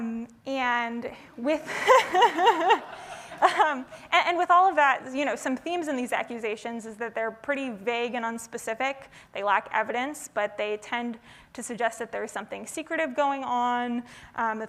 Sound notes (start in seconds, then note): 1.7 audience laughing